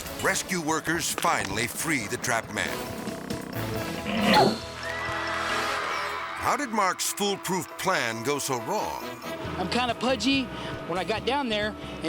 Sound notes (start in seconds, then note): 2.5 soundbite squeeze creaking; 4.1 soundbite whips; 4.7 audience applauding